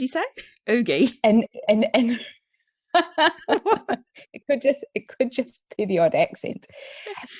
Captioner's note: laughs